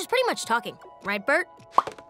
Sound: popping once

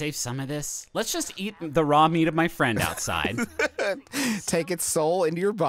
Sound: laughing

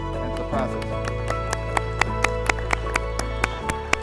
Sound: clapping

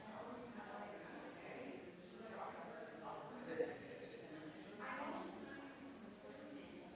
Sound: people chattering distantly continues

